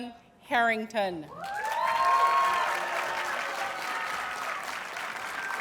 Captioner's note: audience cheers and applauds